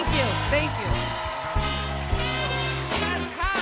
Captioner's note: cheers and applause